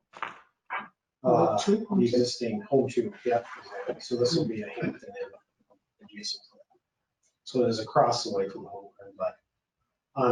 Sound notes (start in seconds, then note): 5.3 speaking faintly